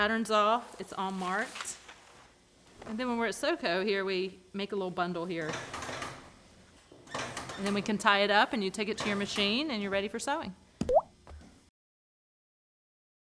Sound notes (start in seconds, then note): 10.8 bloop sound